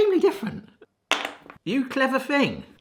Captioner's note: chocolate rattling